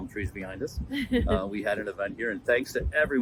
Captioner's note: laughs